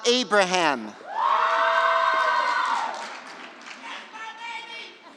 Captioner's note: cheering